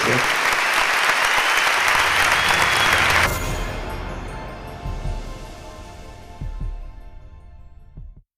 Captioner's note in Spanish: Aplausos